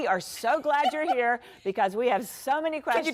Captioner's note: laughter